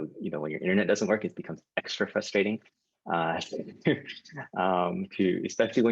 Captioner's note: laughs